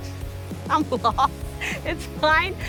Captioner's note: laughs